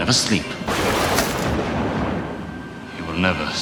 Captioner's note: lighting Strike